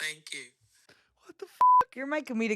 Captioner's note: beep